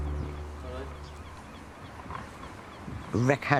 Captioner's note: music concludes; seagulls caw